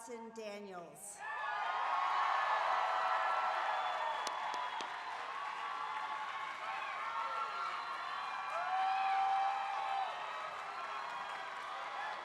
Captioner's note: applause